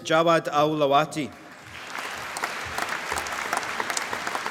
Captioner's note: applause